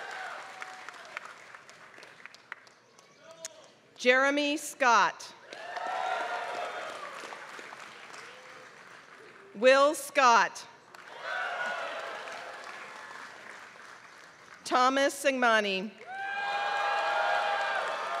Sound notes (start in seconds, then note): 0.0 applause; 5.4 applause; 10.8 applause